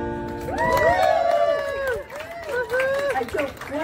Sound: applause

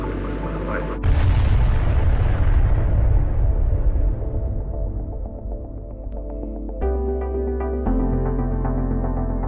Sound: explosion

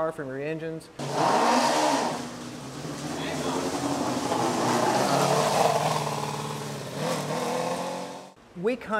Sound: engine noise

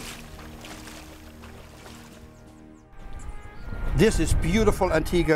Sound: sound effect: water

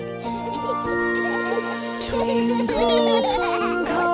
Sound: children giggling; dad giggling; singing

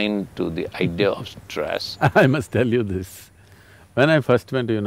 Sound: laughs

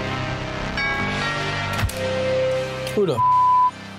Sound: doorbell rings; beep

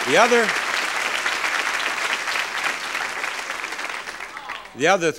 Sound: audience clapping

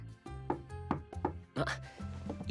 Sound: there is a knock on the door

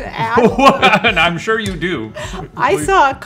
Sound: laughs

